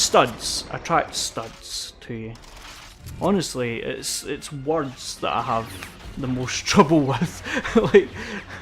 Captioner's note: laughs